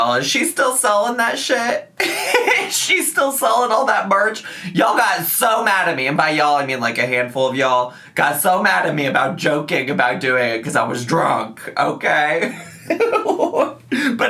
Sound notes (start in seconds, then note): 2.0 laughing; 12.5 laughing